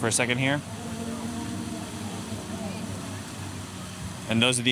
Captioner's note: fountain water flowing with performer singing